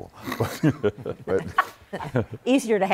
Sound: laughter

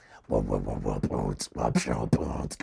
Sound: beatboxing

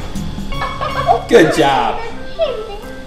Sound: barking; Minnie laughs

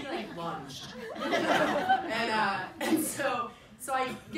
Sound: people laugh

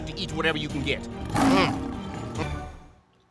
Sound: growling

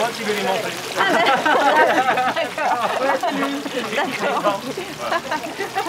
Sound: laughs

